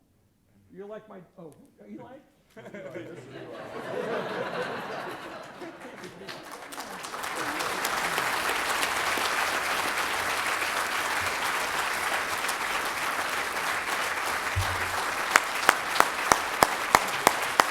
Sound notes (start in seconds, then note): 5.1 laughter; 6.4 applause